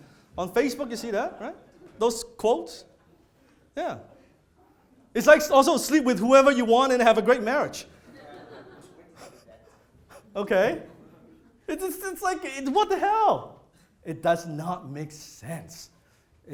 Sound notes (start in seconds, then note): 7.9 audience laughs